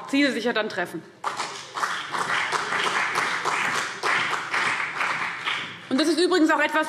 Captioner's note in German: Beifall CDU und BÜNDNIS 90/DIE GRÜNEN